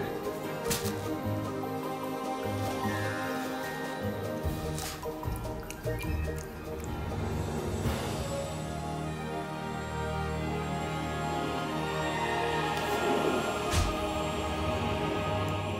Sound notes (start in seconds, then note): 13.6 drawer closing